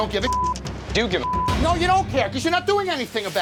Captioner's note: beep